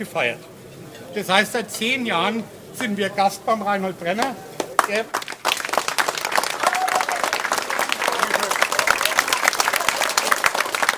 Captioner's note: applause